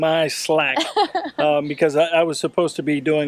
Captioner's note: laughing